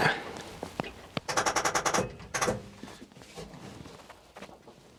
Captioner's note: engine clicking